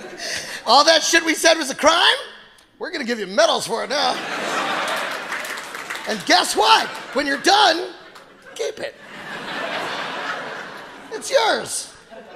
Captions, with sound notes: All that shit we said was a crime, we're gonna give you medals for it now. (audience applauding) And guess what? When you're done, keep it. (audience laughing) It's yours.